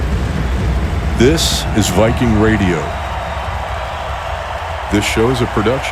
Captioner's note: crowd cheering